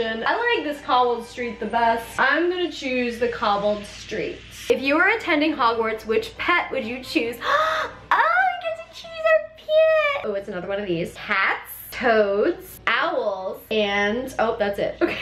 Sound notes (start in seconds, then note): 7.4 gasps